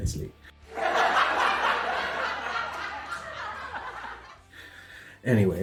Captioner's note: laughter